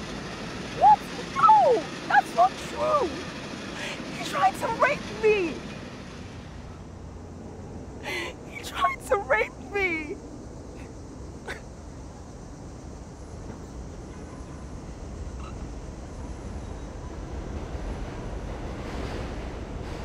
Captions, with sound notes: What?! No! That's not true! He tried to rape me! He tried to rape me (Efosa crying) (Sound of Train passing)